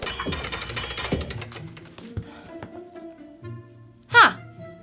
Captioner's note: metallic clanging